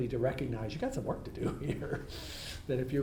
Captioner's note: laughs